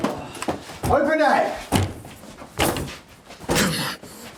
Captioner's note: door bangs